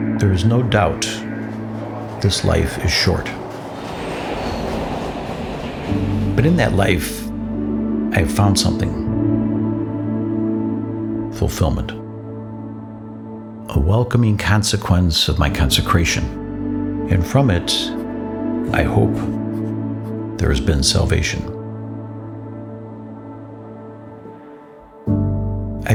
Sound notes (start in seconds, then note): 4.2 train whirring; 22.9 orchestral music